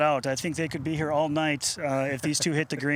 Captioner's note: chuckling